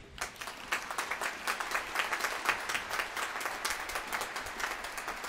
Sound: applause

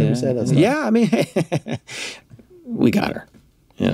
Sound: laughs

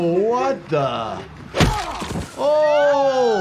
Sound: bat thuds

